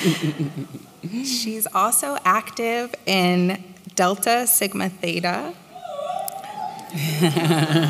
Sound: whoo!

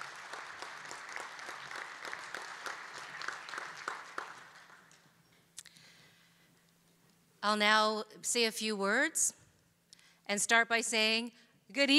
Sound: applause

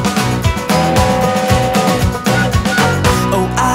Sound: train whistle blowing

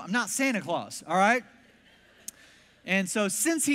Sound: congregation laughs

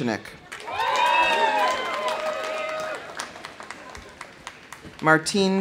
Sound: audience applauding; audience cheering

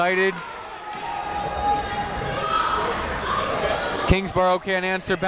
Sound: people shouting in the crowd

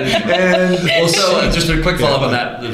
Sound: laughter

